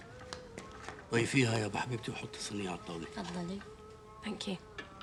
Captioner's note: they converse in arabic